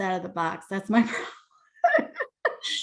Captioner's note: laughs